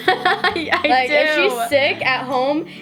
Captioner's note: laughs